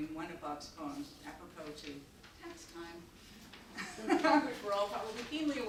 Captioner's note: chuckles